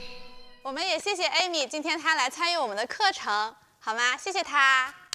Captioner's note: speaking foreign language